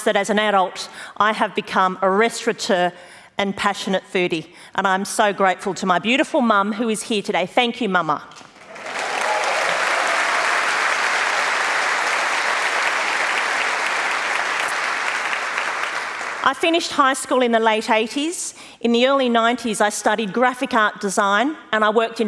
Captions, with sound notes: that as an adult I have become a restaurateur and passionate foodie. And I'm so grateful to my beautiful mum, who is here today. Thank you mama! [ Applause ] I finished high school in the late 80s. In the early 90s I studied graphic art design and I worked